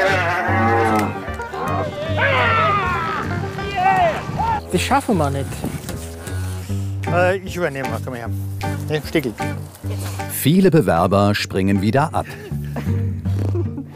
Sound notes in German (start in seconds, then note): 2.0 schrill